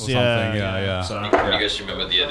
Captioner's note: men laugh